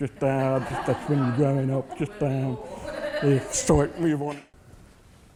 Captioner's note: audience laughs